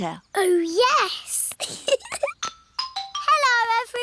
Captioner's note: giggles